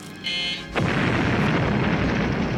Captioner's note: buzzer beeping; booming explosions